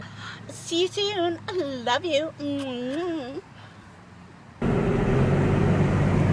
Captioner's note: imitates kissing noises